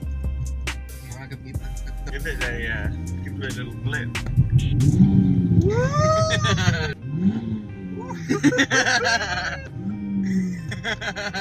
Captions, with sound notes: I don't understand! Give it a little blip! (Revs car) Woooo! (Revs car) (Laughs)